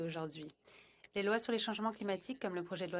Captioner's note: speaking French